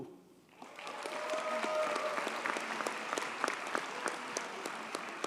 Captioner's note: audience cheers and applauds